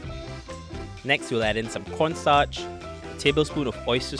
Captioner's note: voiceover